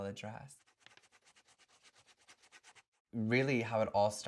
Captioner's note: pen scratching on paper